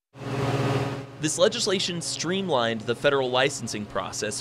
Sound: voiceover

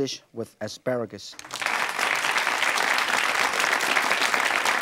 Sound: audience claps

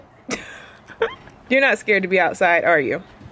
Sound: chuckles

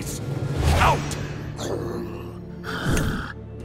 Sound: growling

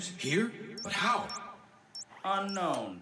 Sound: beeping

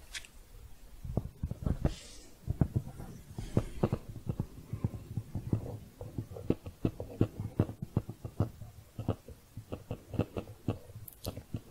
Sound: dull, echoey tapping

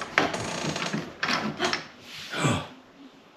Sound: door clicks; gasps

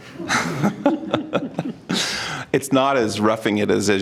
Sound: laughing

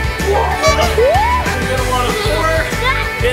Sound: people screaming; horn beeping

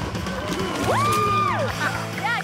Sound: clapping

